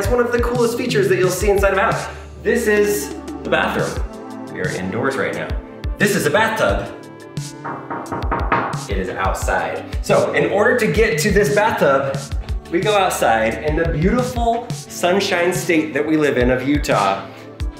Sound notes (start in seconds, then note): 7.6 knocks